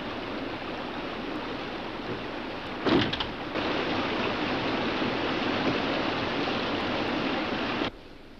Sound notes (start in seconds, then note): 2.8 door slams